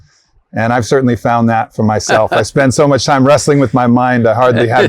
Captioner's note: Sadhguru laughs